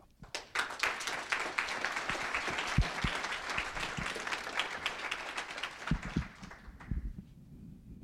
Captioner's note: applause